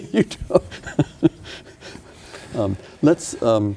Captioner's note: laughing